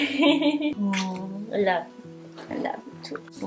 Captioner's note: laughing; kissing